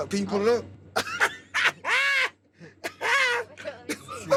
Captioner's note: laughs